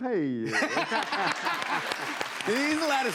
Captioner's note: laughter